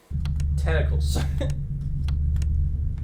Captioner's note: laughs